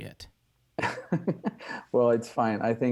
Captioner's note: laughing